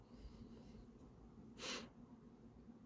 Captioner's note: breath